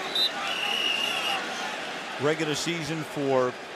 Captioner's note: whistles